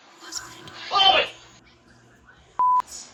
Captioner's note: beep